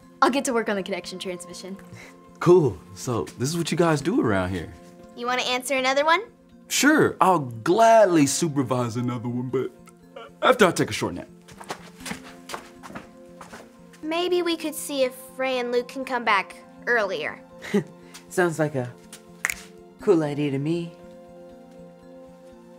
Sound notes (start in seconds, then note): 10.1 yawns; 19.4 snaps